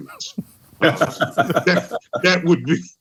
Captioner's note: laughter